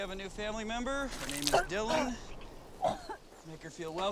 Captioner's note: Dylan vomiting and coughing